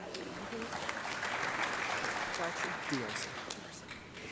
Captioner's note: audience clapping